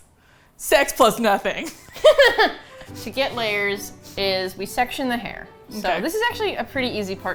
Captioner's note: laughs